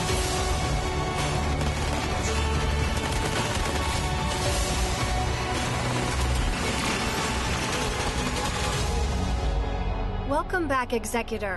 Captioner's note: gun fire